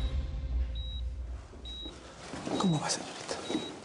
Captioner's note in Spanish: Bip del monitor